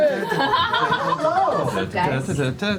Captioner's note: laughter